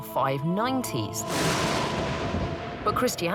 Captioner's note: thunder